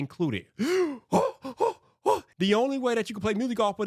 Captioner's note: gasping